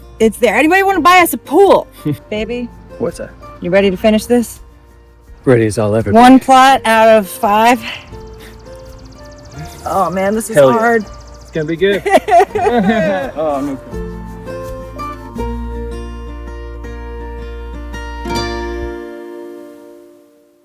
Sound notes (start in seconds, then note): 12.5 sobbing from exhaustion; 14.6 soft folk music